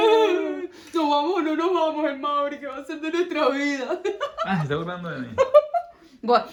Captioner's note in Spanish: ovación